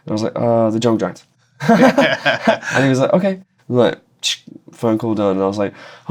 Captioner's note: laughter